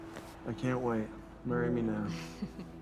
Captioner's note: she chuckles